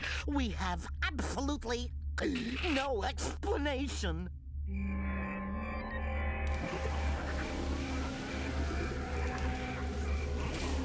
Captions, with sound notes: WE HAVE ABSOLUTELY... [gulps] ...NO EXPLANATION. [crickets chirping] [machine whirring]